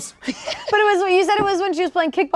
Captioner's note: laughing